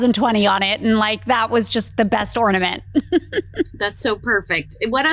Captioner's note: laughs